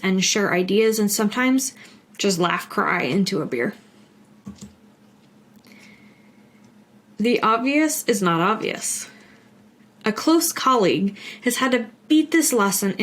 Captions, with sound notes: and share ideas and sometimes just laugh, cry into a beer. (mouse clicks) The obvious is not obvious. A close colleague has had to beat this lesson